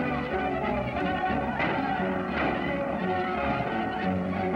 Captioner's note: gunshots